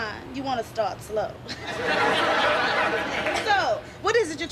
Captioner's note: chuckling